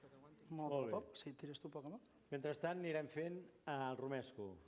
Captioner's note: non-english speech